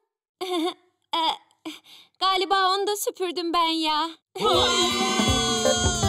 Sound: nervous laugh

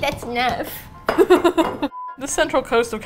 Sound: laughs

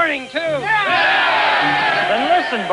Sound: cheering

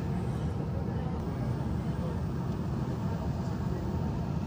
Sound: engines roaring

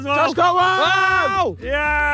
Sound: screams

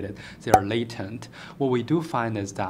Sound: pop

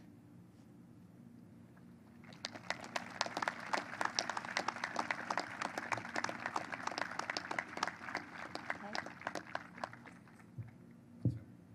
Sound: applause

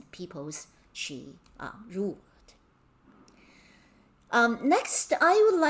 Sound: speaking in Mandarin

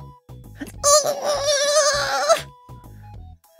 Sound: constipated Scootaloo sound

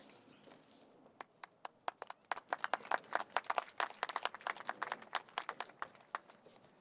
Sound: applause

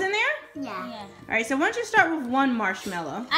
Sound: voiceover

